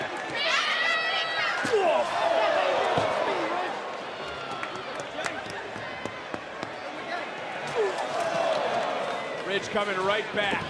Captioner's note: yelling